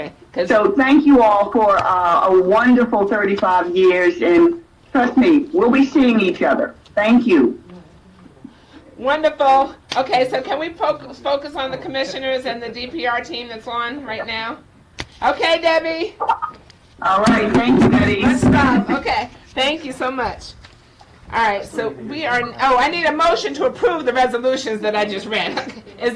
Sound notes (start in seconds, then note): 18.5 banging